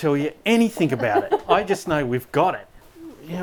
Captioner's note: laughing